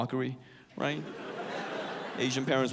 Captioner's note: audience laughs